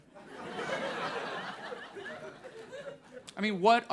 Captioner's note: audience laughs